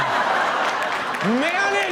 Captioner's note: audience laughs